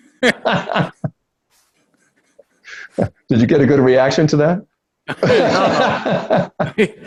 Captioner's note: both laugh; both laugh